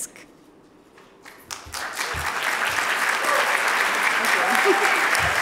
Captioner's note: audience applauding